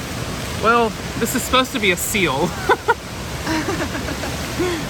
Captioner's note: laughs